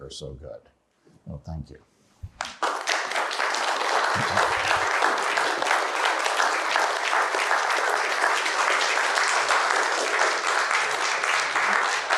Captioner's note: applause